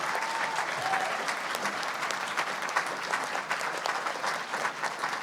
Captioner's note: cheers; applause